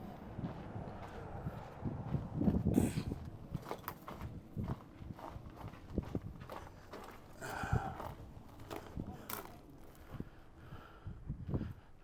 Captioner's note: footsteps through gravel; heavy breathing